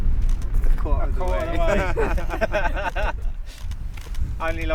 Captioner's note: laughing